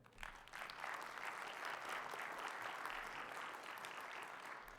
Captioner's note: audience applauds